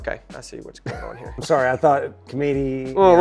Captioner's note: chuckles